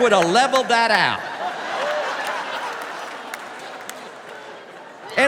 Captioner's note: laughter